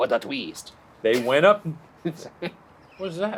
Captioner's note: laughs